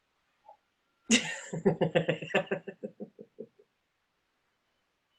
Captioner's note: laughs